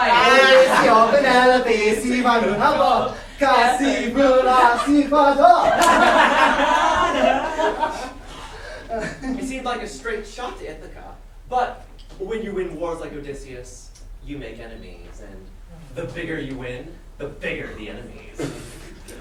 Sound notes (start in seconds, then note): 0.0 sailors laughing and chanting; 6.1 laughter